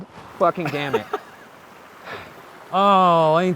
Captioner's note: laughs